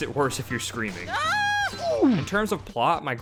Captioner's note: screaming